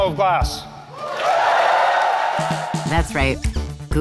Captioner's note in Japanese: 歓声